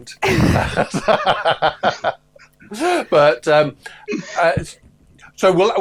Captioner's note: laughter